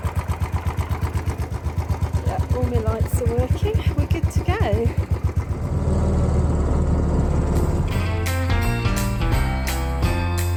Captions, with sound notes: Yeah, all my lights are working. We're good to go. [bike engine] [Christmas swing music]